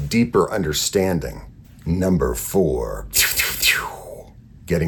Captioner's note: laser whooshes